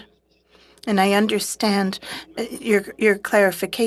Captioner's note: speaking French